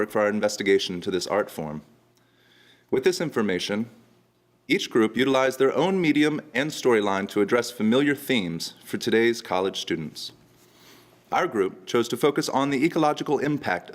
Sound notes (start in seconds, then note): none